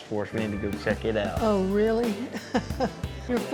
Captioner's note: chuckles